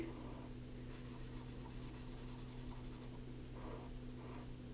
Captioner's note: pen scratching